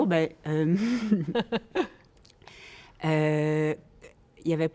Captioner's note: laughter